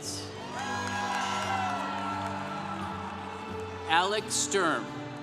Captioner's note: congregation cheering